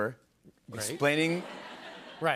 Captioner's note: laughter